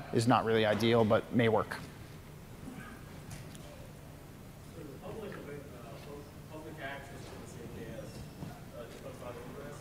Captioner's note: off mic